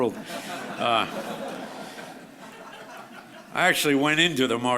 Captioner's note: audience laughs